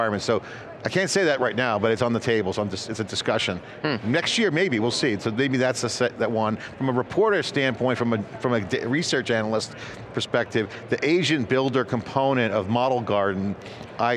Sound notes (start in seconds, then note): none